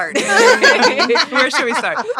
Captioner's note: all laughing